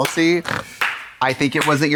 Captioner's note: Katya snorts and slaps